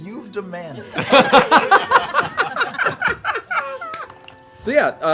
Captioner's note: laughter